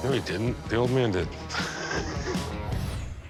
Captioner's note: laughter